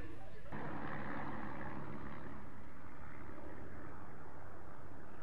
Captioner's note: planes flying